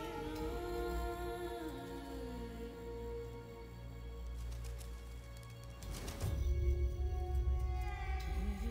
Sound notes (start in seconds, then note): 4.2 bird wings flapping